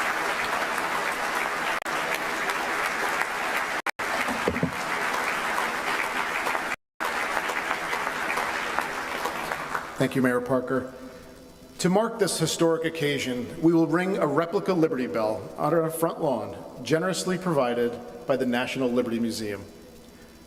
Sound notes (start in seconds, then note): 3.8 applause